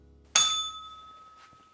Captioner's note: bell rings